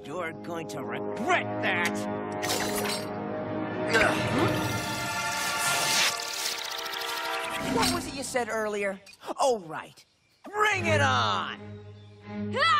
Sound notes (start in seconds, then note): 3.8 Archie grunting